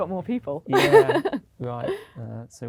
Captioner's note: laughs